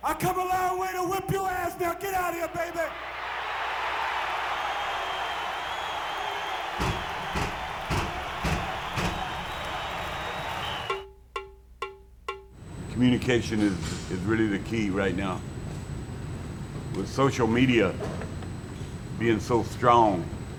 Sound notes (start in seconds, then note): 3.4 audience cheering; 6.2 mat banging; 10.9 drum music